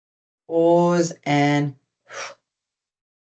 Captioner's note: exhales